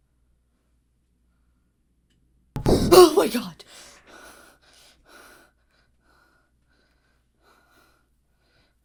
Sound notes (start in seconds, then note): 2.6 Hana continues breathing heavily; 2.6 window thuds